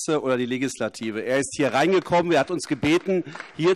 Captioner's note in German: Beifall AfD